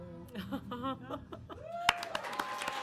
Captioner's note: audience laughs; audience cheers; audience applauds